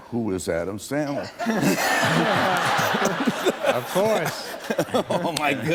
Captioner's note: laughter